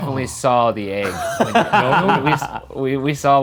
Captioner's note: laughs loudly